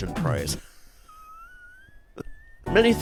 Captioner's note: forced wheezy laughter